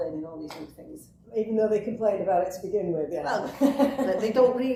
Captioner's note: laughs